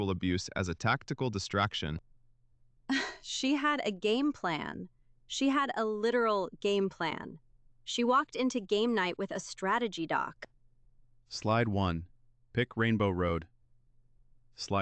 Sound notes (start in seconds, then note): 2.9 stunned laugh